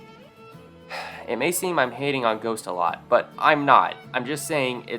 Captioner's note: sigh